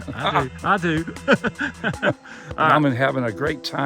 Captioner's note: laughs